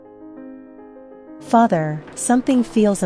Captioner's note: SFX: Ambient 19th Century city noises